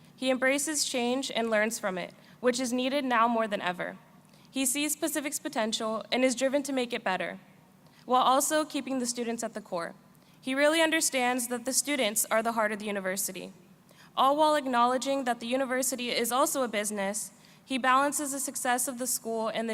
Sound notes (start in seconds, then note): none